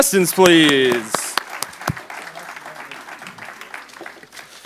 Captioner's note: applause